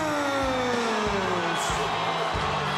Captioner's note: crowd cheering